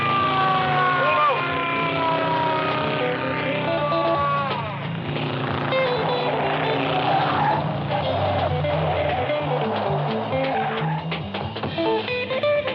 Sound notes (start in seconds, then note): 6.8 tires screeching